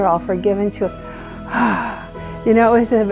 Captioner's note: sigh